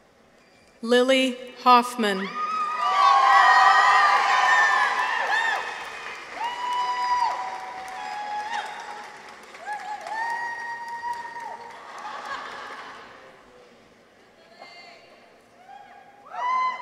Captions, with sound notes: Lily Hoffman. -(people cheer) -(audience applauds) (audience members cheer)